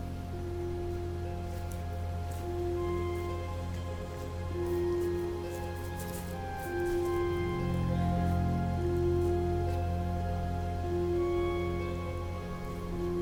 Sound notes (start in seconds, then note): 0.2 soft music; 6.3 grass rustles